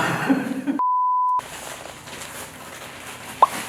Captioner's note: rustle rustle